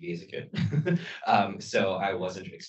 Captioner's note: laughs